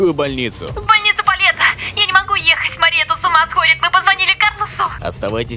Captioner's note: on phone